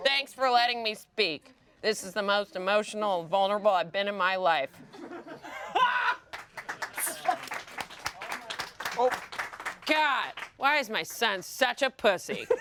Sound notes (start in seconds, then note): 4.9 everyone laughs and applauds